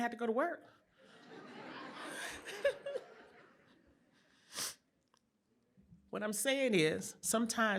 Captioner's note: laughter